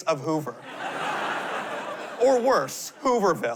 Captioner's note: laughter